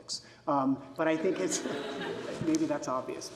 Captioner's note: audience laughs